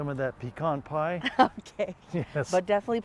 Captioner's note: laughs